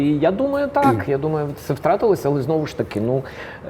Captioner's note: laughs